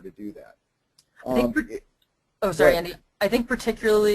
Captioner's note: voiceover